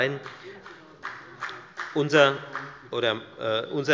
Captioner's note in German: Beifall bei der FDP